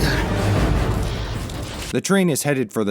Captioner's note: sparks crackle